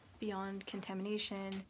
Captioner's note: speaking French